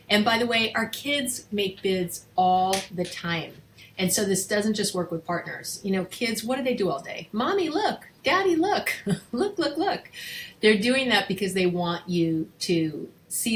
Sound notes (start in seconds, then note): 8.9 chuckles